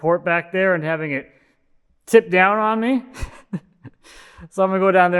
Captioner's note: chuckles